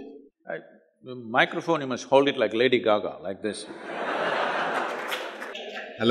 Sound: laughter

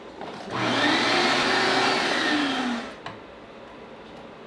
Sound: vacuum whirs

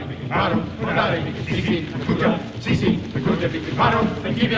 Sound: chanting

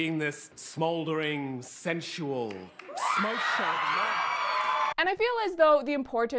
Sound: audience screams

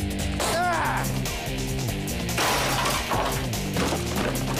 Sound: curt grunts

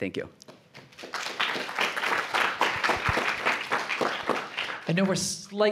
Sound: applause

